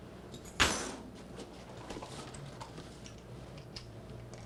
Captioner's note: keys clanking